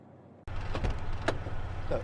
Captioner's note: door opening